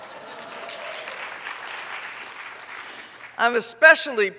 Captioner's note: audience applauds